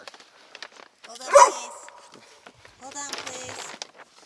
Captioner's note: dog barking